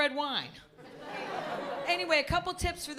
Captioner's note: laughter